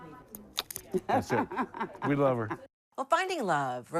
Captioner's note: laughing